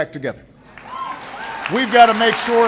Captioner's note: applause